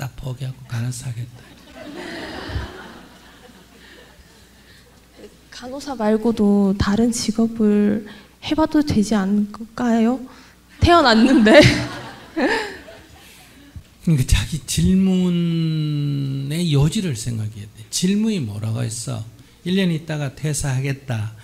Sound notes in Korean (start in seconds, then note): 1.4 질문자 침묵 / 청중 웃음; 11.1 질문자와 청중 웃음